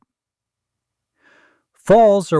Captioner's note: pause